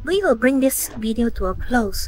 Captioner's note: none